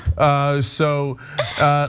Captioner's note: laugh